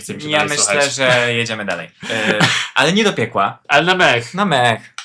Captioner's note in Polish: śmiech